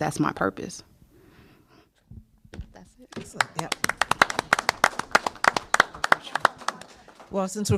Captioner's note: applause